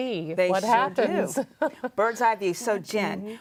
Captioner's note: laughs